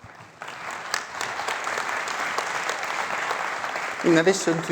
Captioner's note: applause